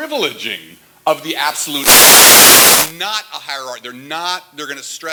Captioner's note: static